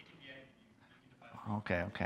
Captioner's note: student speaks off-microphone